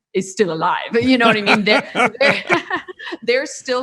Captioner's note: laughing